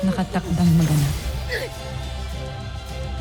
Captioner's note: grunts